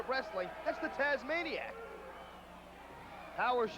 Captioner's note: crowd cheering